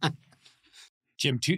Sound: laughs

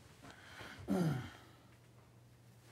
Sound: he clears his throat

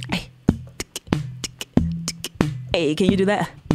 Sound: beatboxing

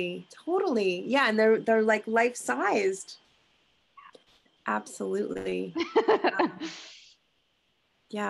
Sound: laughing

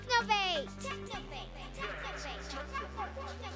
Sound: echoing

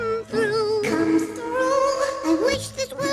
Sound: echoes

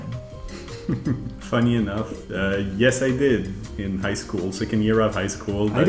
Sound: laughs

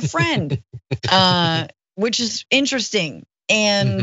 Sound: laugh

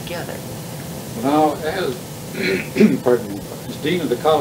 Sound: coughs

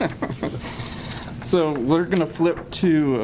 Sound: laughs

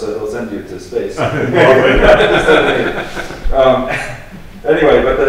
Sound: laughs

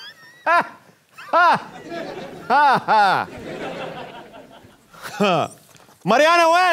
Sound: mockingly laughing

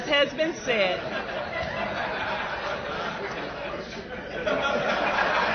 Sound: laughter

